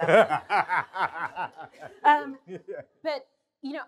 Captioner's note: laughter